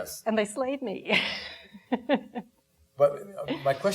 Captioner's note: laughing